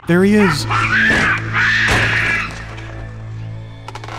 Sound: hysterical baboon shrieking

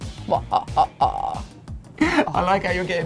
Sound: laughs evilly

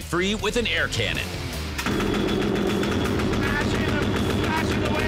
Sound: banging

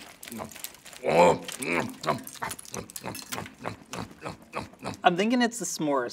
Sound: munching

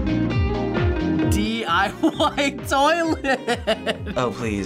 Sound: laughs

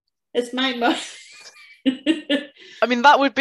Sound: laughs

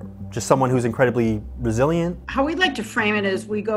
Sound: none

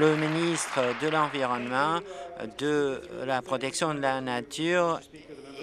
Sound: applause

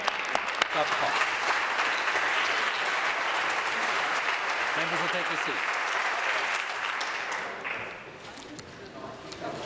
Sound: applause

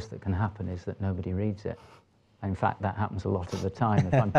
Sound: laughter

